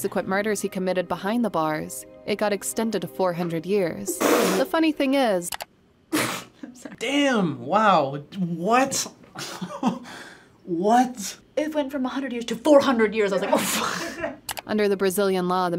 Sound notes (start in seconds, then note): 5.4 mouse clicks; 6.3 laughs; 9.4 chuckles; 13.6 chuckle